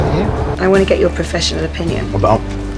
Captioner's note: voiceover